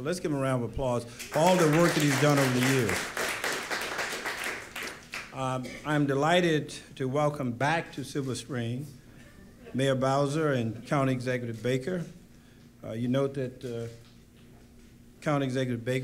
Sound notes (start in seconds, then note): 5.9 applause